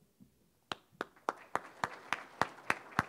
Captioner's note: audience applauding